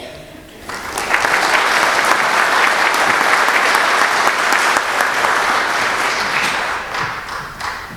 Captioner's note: applause